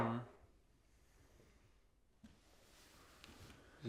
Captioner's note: body scraping